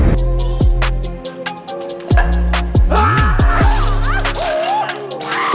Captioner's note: more Whipping noise and battle cries